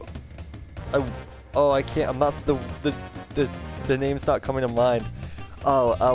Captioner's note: stuttering